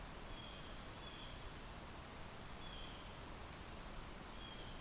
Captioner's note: bird cawing in distance